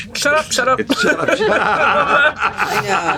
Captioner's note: laughter